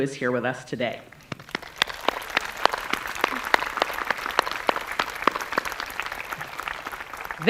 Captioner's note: clapping